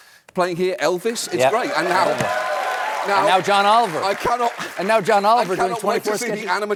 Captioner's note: cheering